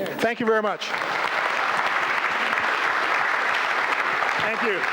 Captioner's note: applause